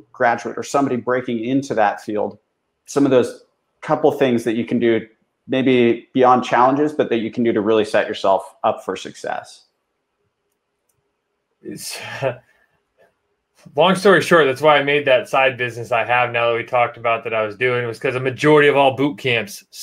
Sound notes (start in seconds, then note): 11.7 laughs